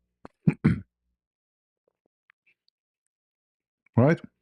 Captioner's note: berdehem